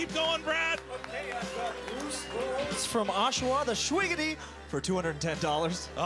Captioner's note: cheering and Applause